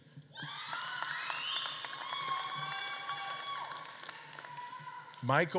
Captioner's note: audience claps and cheers